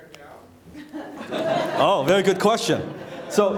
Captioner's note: laughing